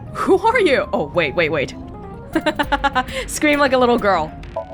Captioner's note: chuckles